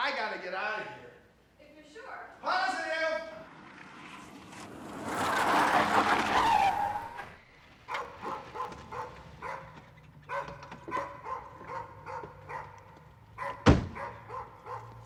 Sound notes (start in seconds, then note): 5.9 tires screeching; 8.4 dog barking